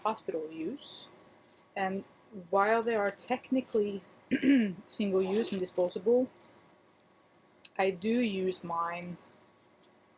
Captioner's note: cough